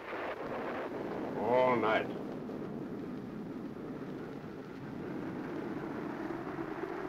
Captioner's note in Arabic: صوت الرعد; هدير الريح